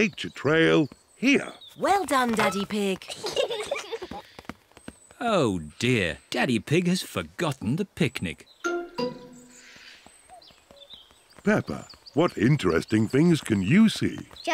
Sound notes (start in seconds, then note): 3.0 peppa and george giggle